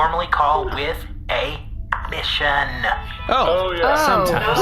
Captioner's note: Missionator chimes